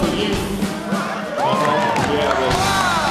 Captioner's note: whooping